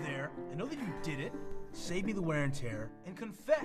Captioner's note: laughs